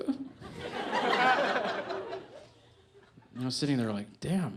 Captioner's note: audience laughs